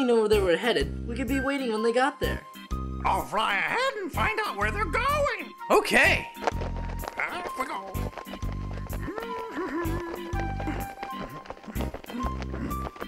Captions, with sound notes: If we only knew where they were headed we could be waiting when they got there. - I'll fly ahead and find out where they're going. - Okay! - Off I go. (humming)